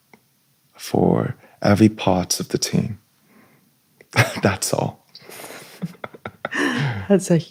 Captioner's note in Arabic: ضحك